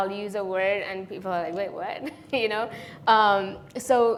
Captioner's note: chuckles